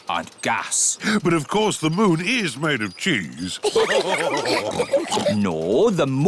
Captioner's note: all laugh